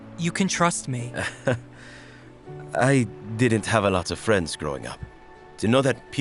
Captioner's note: chuckles